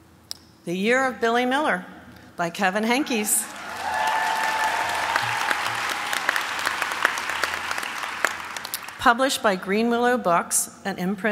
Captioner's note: applause